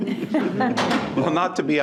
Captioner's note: participants laughing